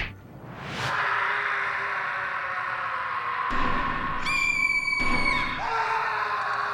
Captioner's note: people screaming